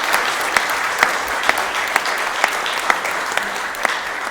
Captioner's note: applause